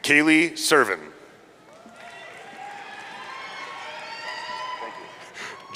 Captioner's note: audience cheering